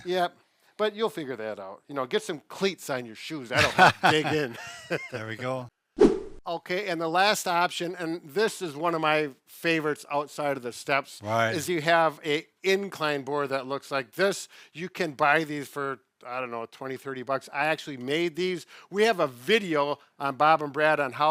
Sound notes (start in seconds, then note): 3.5 laughs; 6.0 screen swooshes